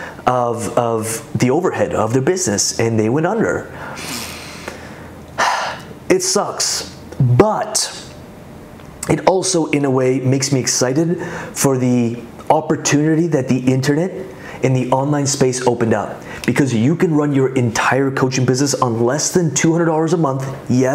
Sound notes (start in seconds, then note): 5.4 sighs